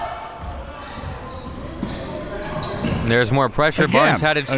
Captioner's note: spectators shouting